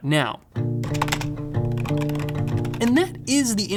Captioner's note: keyboard clicking